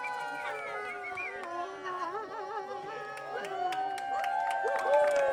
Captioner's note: audience cheering